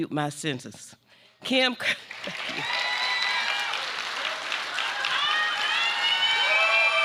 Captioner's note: applause